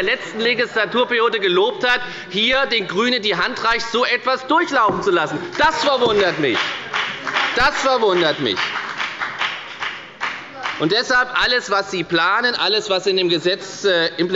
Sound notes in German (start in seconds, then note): 7.3 Beifall bei der FDP